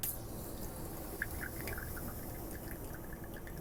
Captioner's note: coffee pouring